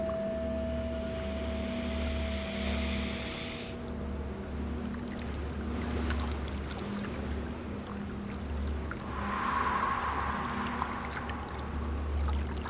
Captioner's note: singing bowl is struck again; breathes in with power, exhales with power, repeated 3 times